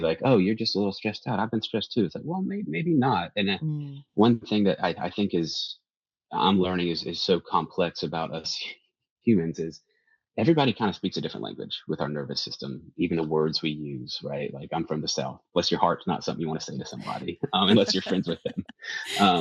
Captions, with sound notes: like, "Oh, you're just a little stressed out. I've been stressed too." It's like, -well, may- maybe not. And that- -Mm ... one thing that I, I think is, I'm learning is, is so complex about us [chuckles] humans is everybody kind of speaks a different language with our nervous system, even the words we use, right? Like, I'm from the South. "Bless your heart" is not something -you wanna say to somebody- -[laughs] ... um, unless you're friends with them.